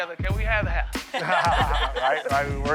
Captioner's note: laughter